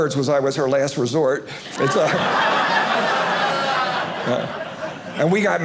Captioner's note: audience laughing